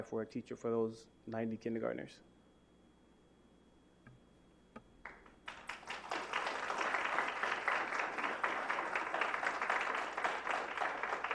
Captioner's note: applause